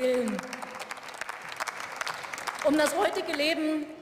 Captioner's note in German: Beifall